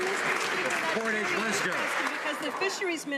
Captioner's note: some Applause